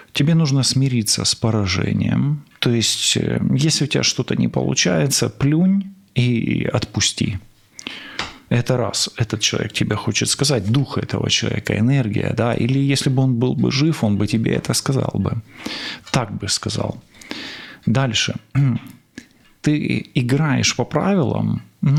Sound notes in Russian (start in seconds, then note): 16.2 фыркает; 18.5 откашливается